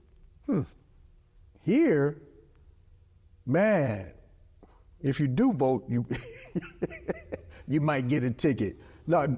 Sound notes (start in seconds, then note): 6.1 laughs